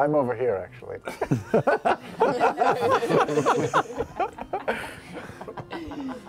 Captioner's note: laughter